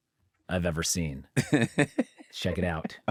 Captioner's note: laughs